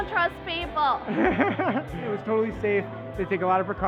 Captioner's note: laughs